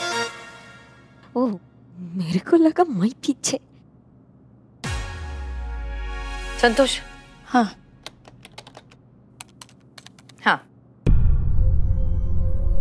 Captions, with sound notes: I thought she asked me to step back. - Santosh. - Yes. [keys clacking] Yes. [tense music]